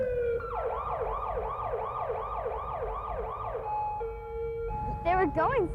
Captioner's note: ambulance siren